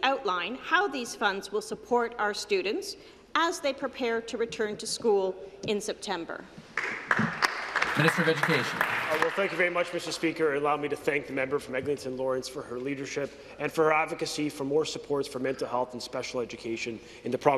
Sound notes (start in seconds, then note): 9.6 some Applause